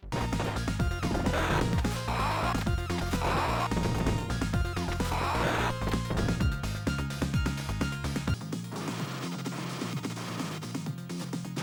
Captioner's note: game sounds